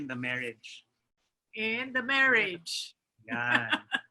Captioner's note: laughs